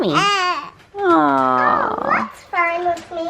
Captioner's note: baby coos